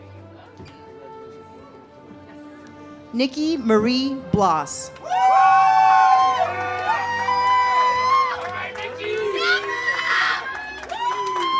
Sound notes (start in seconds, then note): 5.0 audience cheers